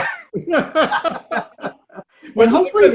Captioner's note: both laughing